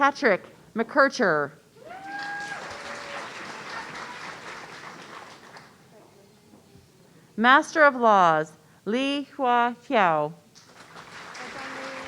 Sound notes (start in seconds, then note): 1.8 audience cheering; 10.6 audience applauding